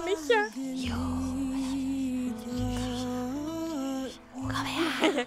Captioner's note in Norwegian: sensuell kviskring